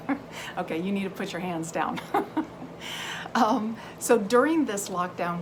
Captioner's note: laughs; laughs